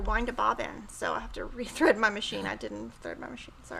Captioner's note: chuckles